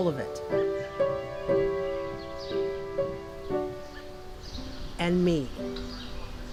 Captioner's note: birds chirping; quiet piano music